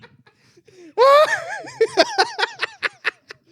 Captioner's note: laughing